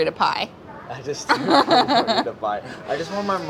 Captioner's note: laughs